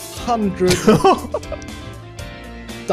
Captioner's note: laughs in awe